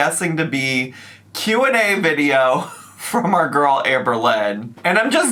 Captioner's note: laughs